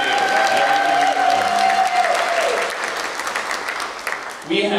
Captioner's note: applause